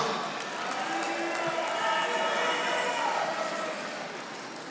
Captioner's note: audience applauding